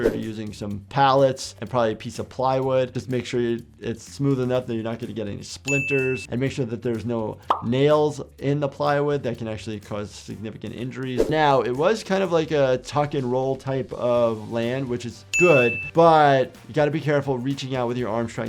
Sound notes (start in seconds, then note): none